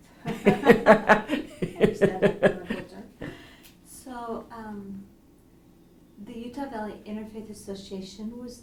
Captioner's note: laughs